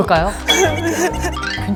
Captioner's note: sobbing